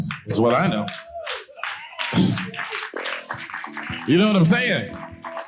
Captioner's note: audience applauding